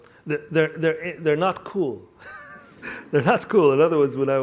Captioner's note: laughs